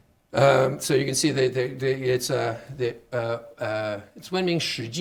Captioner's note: speaking Chinese